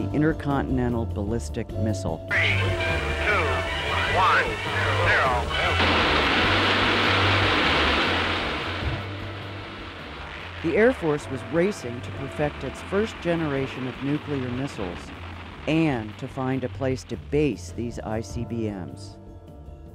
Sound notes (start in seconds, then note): 6.3 rockets hissing